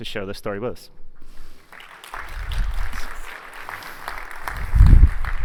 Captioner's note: applause